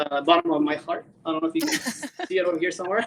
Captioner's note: laughs